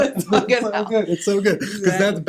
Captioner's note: laughing